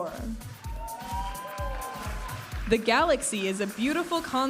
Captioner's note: audience applauding and cheering